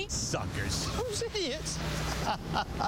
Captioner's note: laughter